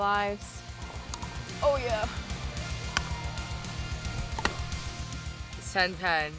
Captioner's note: pickelball sounds